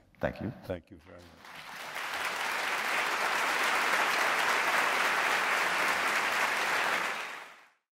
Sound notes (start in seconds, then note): 1.1 applause